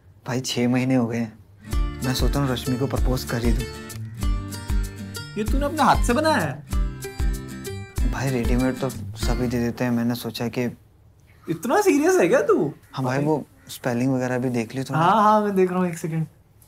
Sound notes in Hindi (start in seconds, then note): none